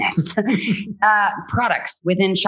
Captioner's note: laughs